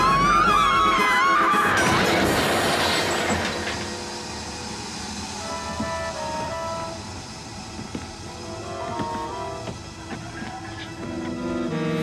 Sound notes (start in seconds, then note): 1.7 crashing; 4.9 hissing